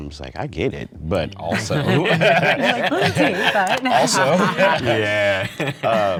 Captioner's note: excited group cross-chatter